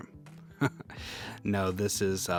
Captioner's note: laughing